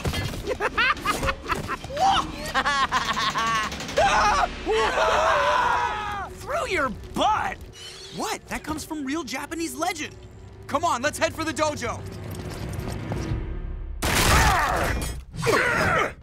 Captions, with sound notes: [laughing] [screaming] Through your butt? What? That comes from real Japanese legend. Come on, let's head for the dojo. [grunting]